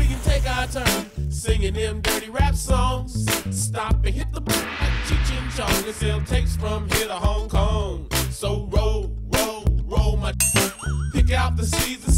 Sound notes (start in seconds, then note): 4.6 gongs; 9.1 twangs